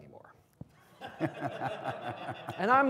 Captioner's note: people laughing